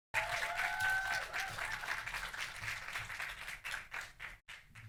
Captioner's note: audience applauding